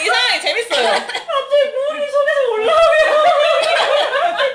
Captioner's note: coughing again; laughing